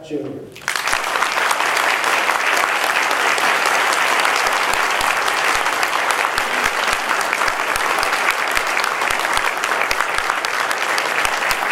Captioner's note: applause